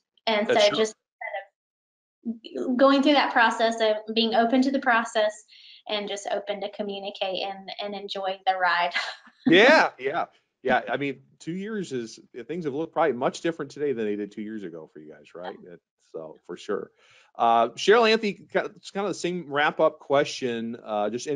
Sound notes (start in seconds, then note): 9.4 chuckles